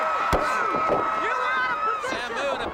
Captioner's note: crowd cheering